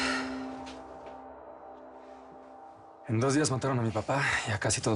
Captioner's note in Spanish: Suspiros